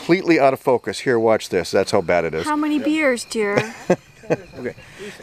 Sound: laughter

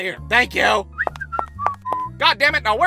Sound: whistling

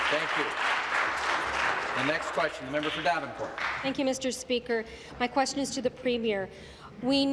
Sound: applause

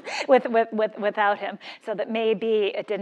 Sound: laugh

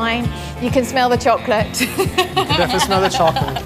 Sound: laughs

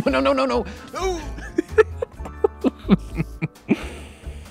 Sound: laughs

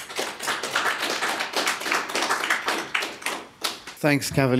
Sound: applause

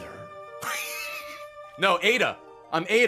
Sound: laughs

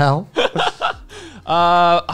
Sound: laughs

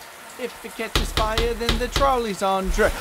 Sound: singing; knocking

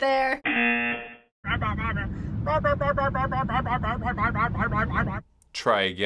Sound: mouth sounds

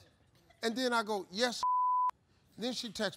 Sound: beep

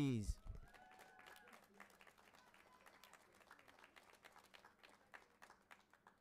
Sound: audience applauding and cheering

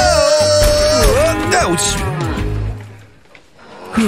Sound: scared screams and moans

